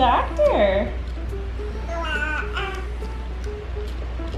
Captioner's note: baby cooing